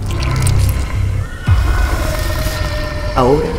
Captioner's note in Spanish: monster voice